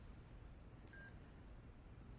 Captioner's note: phone beeps